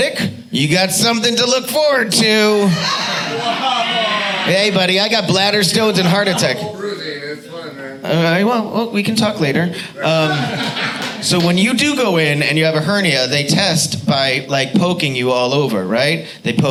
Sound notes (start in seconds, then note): 2.5 audience laughs; 9.9 audience laughing